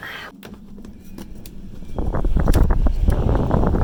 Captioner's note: wind howling